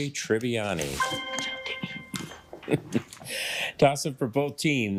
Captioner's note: triumphant chime